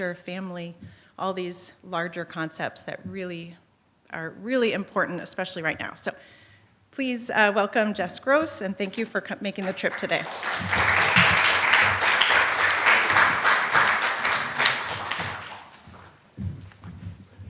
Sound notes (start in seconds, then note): 9.6 applause